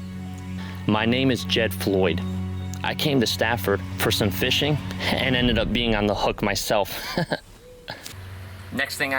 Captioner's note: laughs